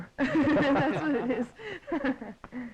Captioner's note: laughing